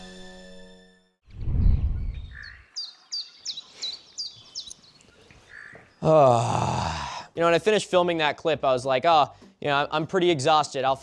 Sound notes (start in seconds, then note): 1.3 whoosh; 1.7 birds chirping